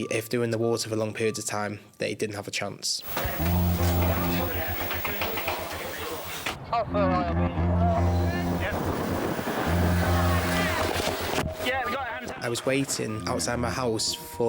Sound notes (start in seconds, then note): 3.7 rescue crew chattering; 3.7 soft tense music